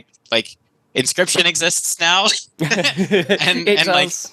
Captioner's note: laughs